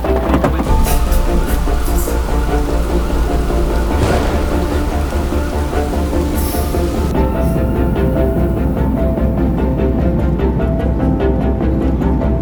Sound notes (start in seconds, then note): 0.6 thunder crashing; 1.6 siren blaring